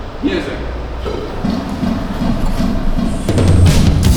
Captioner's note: metronome counting